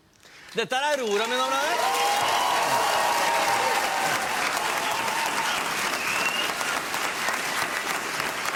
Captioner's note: applause